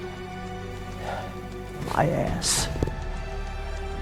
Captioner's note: sighing